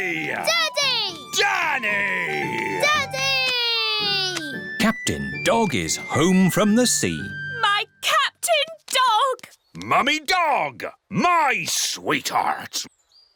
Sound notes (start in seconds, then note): none